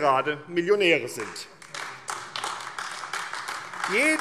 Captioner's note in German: Beifall AfD